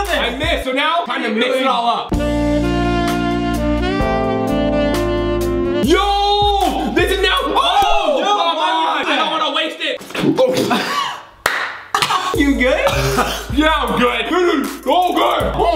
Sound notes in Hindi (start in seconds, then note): 2.1 धीमा संगीत; 10.2 गैगिंग